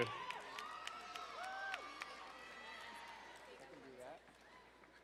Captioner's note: crowd cheering and applauding